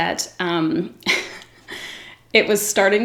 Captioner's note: giggles